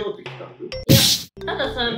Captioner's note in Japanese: バシっ！（殴る音）